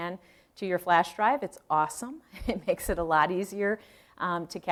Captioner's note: chuckle